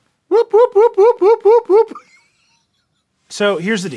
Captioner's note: laughing